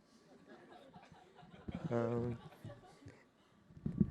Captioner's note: laughter